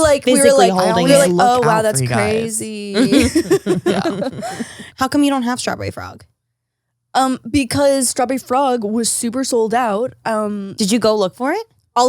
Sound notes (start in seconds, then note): 2.9 laughs